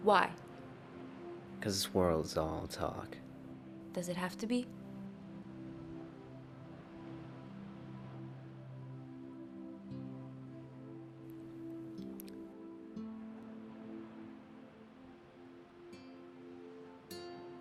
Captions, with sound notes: - Why? - Because this world's all talk. - Does it have to be? (soft dramatic music continues) (trees swaying in wind)